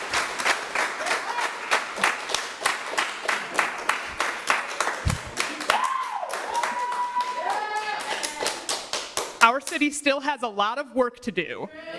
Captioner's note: applause